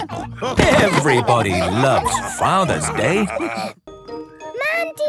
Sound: laughter

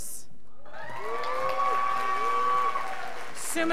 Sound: scholars applauding

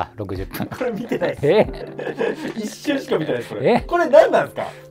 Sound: laughing

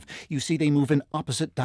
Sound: none

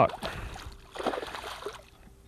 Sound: splash

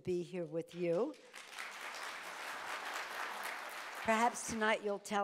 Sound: audience applauding

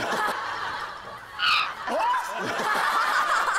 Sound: screaming

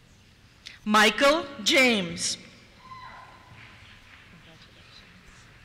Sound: cheers

